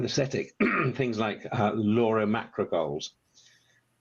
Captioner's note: coughs